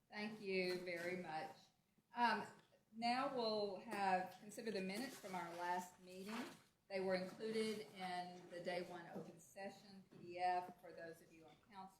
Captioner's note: off microphone